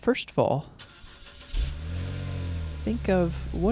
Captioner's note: car engine starting